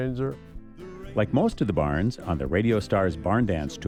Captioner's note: voiceover